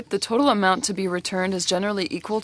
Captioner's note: speaking French